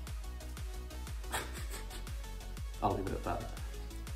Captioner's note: scoffs